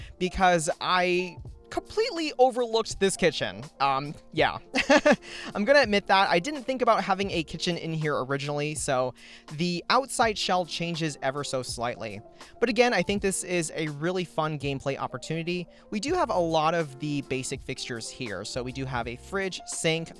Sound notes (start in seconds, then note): 4.8 laughs